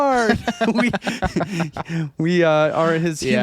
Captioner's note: laughing